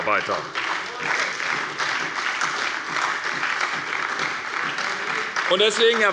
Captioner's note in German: Beifall bei der SPD und bei Abgeordneten der FDP